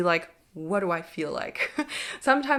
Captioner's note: chuckles